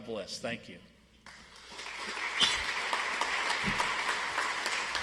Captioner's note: audience applauds